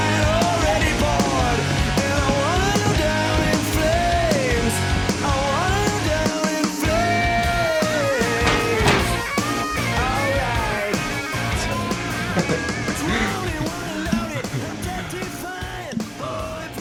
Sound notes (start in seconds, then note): 11.4 Alex chuckling